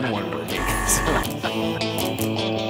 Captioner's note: buzzer blaring; upbeat music